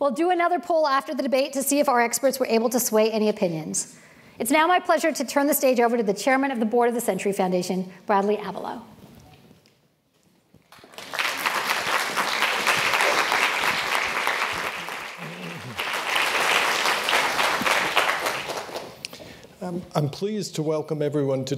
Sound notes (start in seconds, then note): 10.7 applause